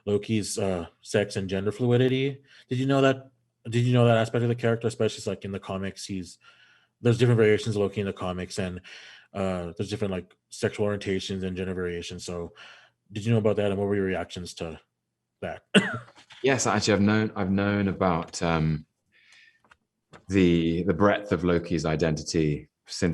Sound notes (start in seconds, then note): 15.7 man laughs